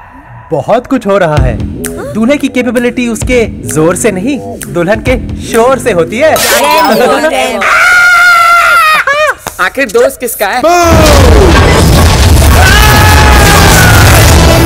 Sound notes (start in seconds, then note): 7.6 Manav and Sartaj screaming; 12.4 Veer screams